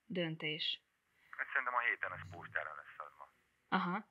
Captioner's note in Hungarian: férfihang a telefonban